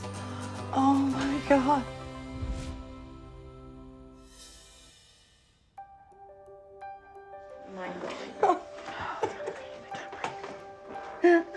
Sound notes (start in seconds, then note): 2.3 gentle uplifting music; 7.9 cries